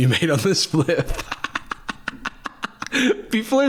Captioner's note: cackling